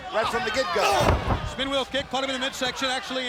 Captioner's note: blows thudding